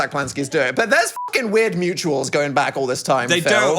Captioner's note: beep